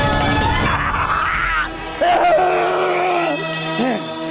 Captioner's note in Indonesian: berteriak